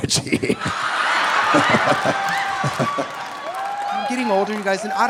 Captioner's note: audience laughing; audience cheering